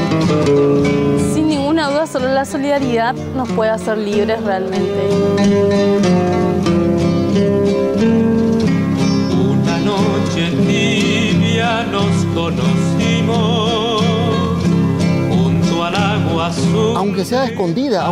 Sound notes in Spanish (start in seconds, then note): 1.1 Voz de mujer; 16.8 Voz de hombre